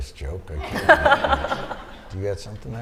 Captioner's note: laughter